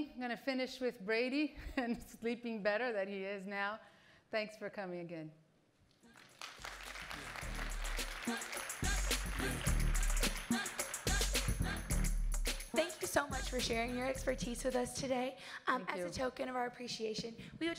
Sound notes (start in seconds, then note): 6.1 audience applauds; 9.1 upbeat music